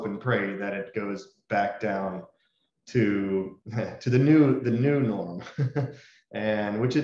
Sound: laughs

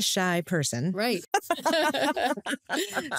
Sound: laughter

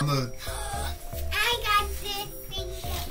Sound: gasps

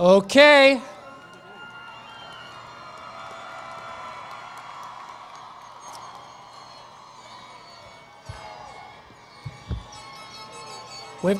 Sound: cheering

